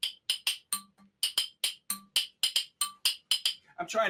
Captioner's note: rhythmic tapping on bottle